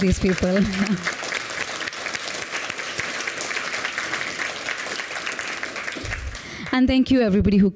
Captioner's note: applause